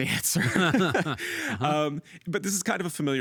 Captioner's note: both laughing